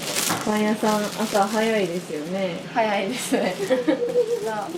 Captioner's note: laughs